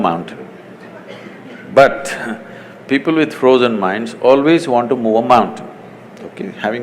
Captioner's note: laughs